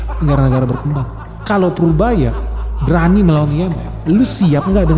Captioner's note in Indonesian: tertawa